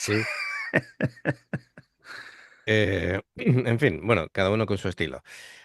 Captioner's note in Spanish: risas